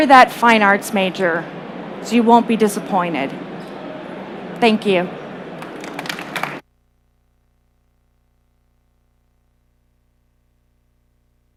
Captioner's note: applause